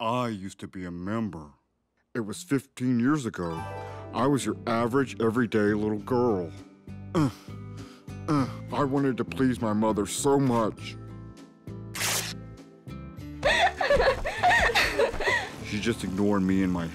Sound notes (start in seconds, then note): 13.4 girls giggling